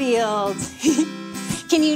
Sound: chuckles

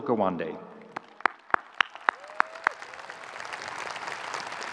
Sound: audience cheering

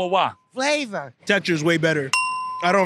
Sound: ding

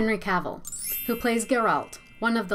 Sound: bell rings

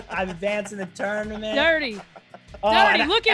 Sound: laugh

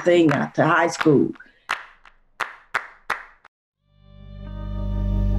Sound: hands clapping; soft guitar music

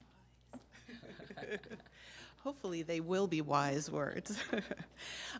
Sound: laughs

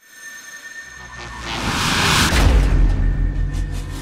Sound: expanding tone

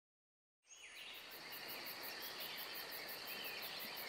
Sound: birds chirp

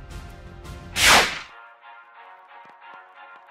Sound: electric sound; soft music

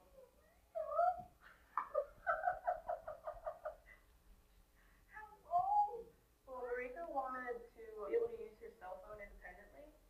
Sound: laughs

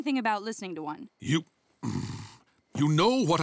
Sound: growling

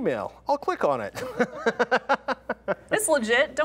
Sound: chuckles

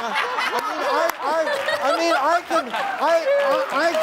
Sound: audience laughing

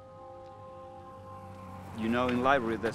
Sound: car engine running

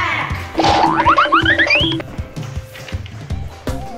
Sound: cartoonish rattling

